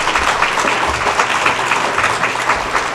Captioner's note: applause